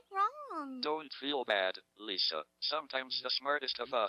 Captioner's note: electronic Voice